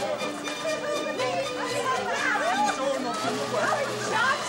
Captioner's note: chatter